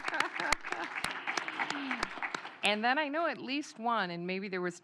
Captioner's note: applause